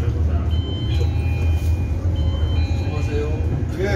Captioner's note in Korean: 하차벨 소리